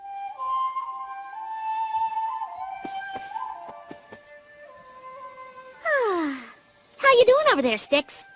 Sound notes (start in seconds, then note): 0.0 flute music playing; 5.8 sighs contently